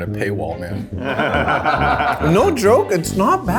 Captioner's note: all laugh